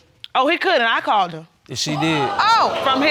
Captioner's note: audience exclaiming